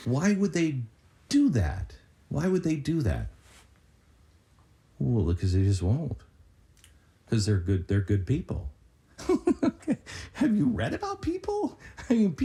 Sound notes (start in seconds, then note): 9.2 laughs